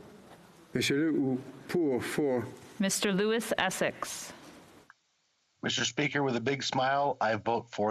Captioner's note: speaking French